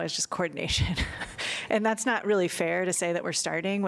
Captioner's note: laughter